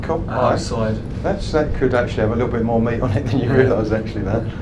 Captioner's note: laughs